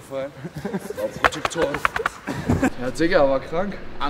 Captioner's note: gorilla noises